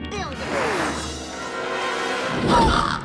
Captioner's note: bird squawks; ticking sounds